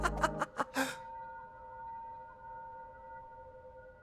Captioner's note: laughing; gasp